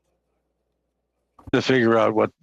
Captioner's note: speaking in French